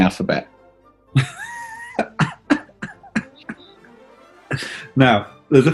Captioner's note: chuckling